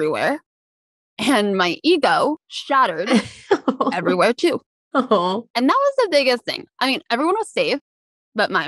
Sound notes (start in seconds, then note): 2.9 laughs